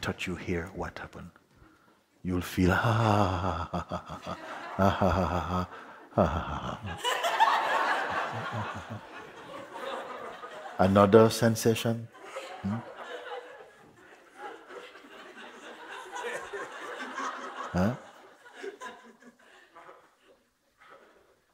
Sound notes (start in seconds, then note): 5.3 laughter; 7.9 more laughter; 12.8 laughter continues